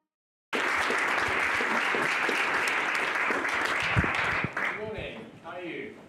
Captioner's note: clapping